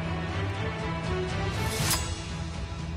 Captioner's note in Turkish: kiliç sesi̇